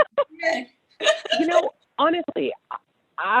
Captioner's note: laughs